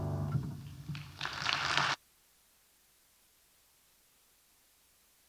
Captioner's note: audience applauding